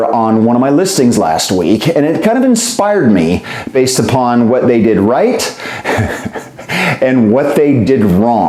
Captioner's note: laughter